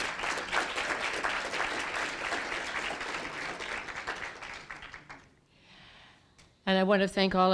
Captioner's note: applause